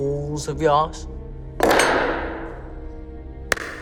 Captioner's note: wrench hits the table